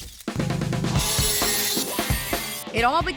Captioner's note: saw sounds